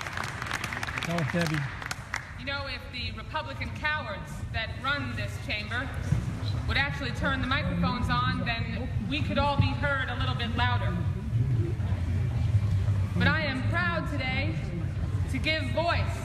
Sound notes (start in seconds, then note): 2.1 applause